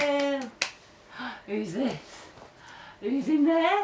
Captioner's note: gasps